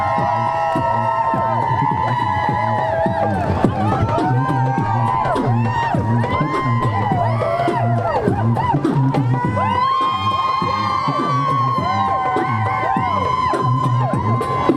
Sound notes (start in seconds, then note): 0.1 runway Music; 8.3 crowd Whooping